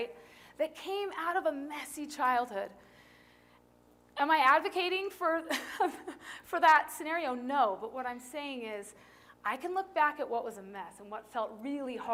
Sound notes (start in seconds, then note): 5.4 laughter